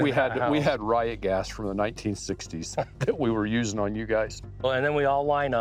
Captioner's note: laughs